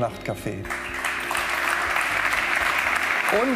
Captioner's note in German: Applaus